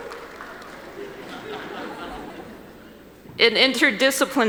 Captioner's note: laughing